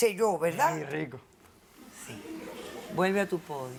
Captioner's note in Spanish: Risas